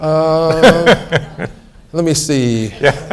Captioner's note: laughs